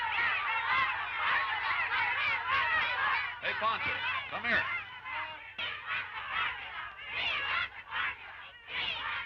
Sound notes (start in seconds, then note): 1.1 women shouting; 5.8 chanting